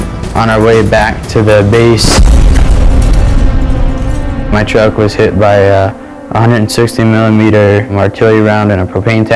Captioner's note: explosion